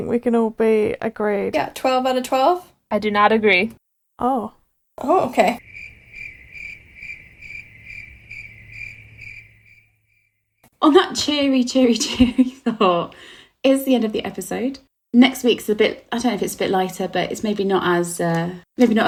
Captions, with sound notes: - I think we can all be agreed. - Yeah, 12 out of 12. - I do not agree. - Oh. - Oh, okay. (crickets chirping) - On that cheery, cheery, cheery thought, it's the end of the episode. Next week's a bit, I don't know if it's a bit lighter, but it's maybe not as,